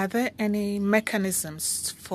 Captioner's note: speaking French